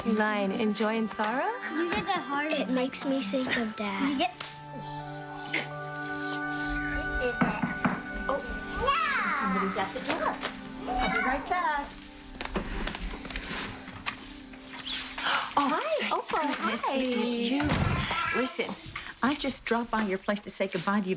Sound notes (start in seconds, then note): 7.4 knock on door